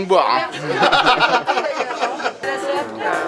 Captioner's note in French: rires